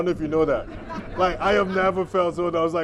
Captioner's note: laughter